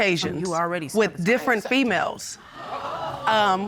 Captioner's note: audience gasps